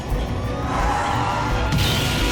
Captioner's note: tires skidding